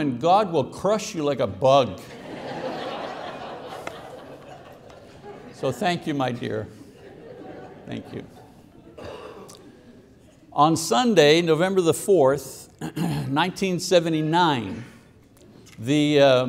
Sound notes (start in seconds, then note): 2.0 congregation laughing